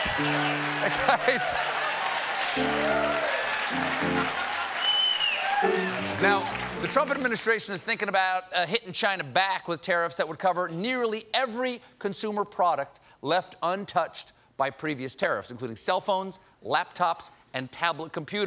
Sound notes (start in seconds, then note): 3.5 applause